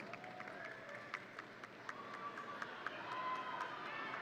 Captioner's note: audience cheering